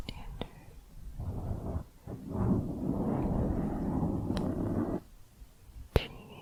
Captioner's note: mic scratching